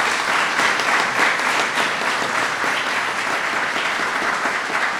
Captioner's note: applause